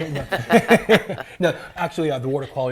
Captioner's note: people laughing